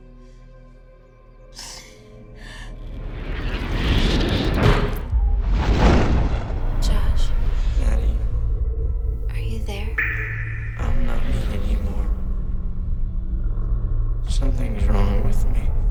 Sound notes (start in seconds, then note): 1.5 Mattie sobbing; 3.2 nightmarish music